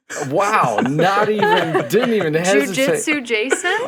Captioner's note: chuckling